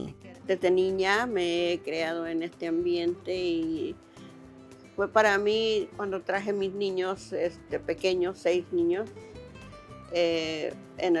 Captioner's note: speaking Spanish